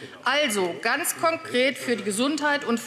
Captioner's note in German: none